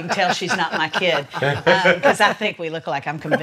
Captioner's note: laughs